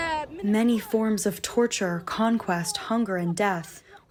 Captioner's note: through translator